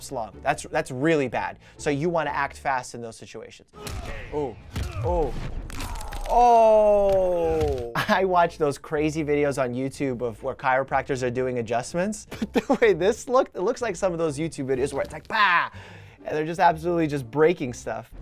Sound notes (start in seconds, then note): 4.7 bones cracking; 4.8 grunting, smacking